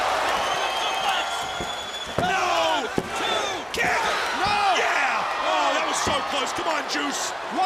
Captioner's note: crowd chatter